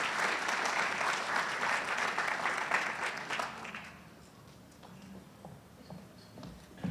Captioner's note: audience cheers and applauds